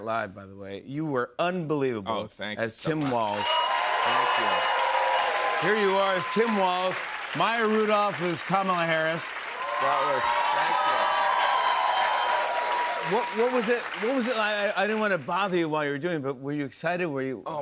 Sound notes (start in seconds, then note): 3.5 cheers and applause; 11.2 cheers and applause